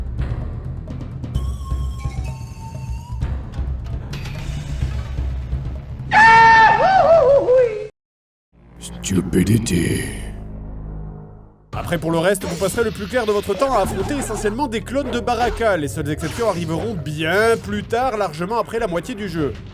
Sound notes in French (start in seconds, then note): 6.1 cri de Dingo